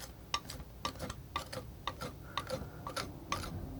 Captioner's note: tapping